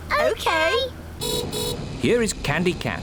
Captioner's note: horn beeps